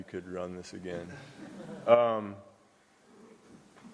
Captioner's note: laughter